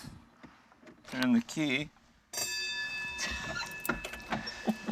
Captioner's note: bell rings